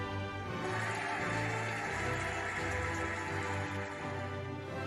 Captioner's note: cheering and applauding